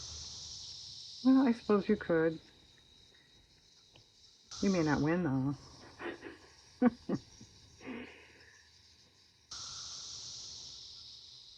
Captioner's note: laughs